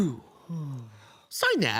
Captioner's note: soft breathing